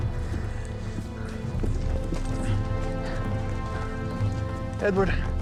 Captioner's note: speaks tribal language